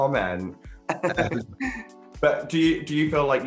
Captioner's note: giggles